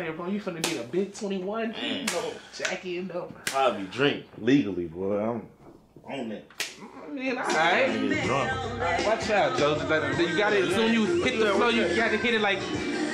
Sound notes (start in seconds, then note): 6.5 hands slapping; 9.8 rhythmic music